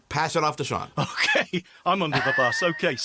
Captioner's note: laughs